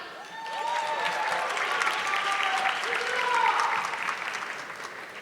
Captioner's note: audience clapping